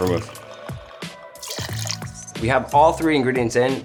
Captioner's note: liquid flowing